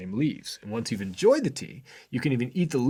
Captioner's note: none